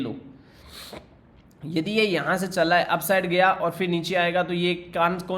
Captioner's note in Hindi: नाक से की जाने वाली आवाज़